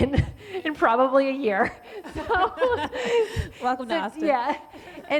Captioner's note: ladies laughing